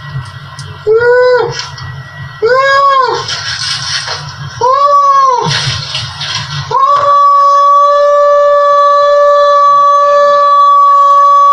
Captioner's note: whoooooooooooo